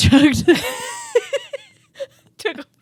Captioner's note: both laughing